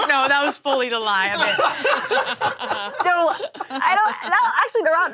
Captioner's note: laughter continues